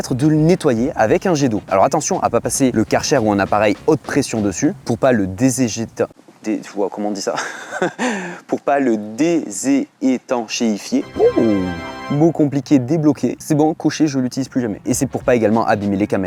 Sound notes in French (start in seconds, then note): 7.3 rires